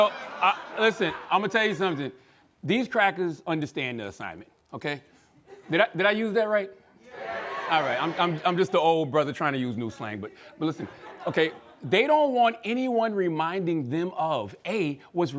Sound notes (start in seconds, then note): 7.0 crowd